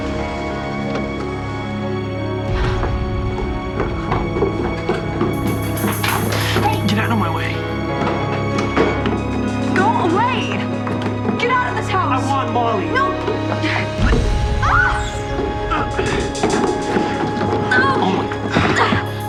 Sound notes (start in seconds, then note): 14.6 erica screams; 17.6 erica grunts